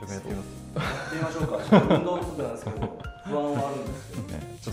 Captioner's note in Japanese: 笑い